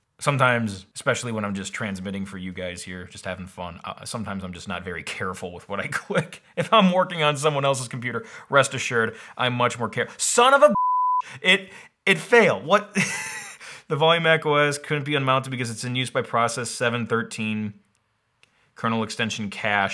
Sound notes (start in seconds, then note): 10.7 beep; 12.9 chuckling